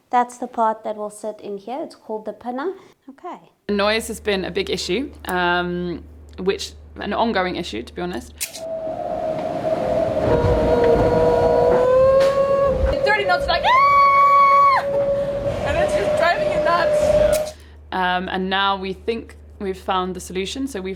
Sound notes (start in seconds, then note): 13.7 screams